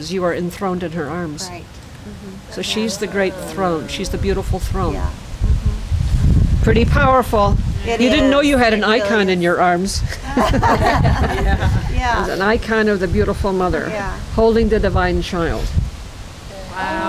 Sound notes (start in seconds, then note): 10.0 laughter